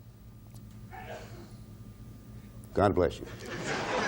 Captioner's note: audience member sneezes